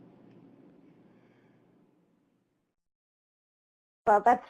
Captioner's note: silence